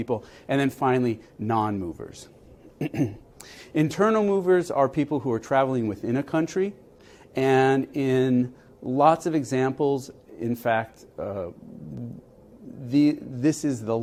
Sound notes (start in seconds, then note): 2.7 cough